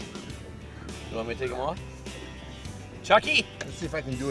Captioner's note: voiceover